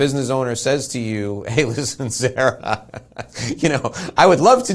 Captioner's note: laughs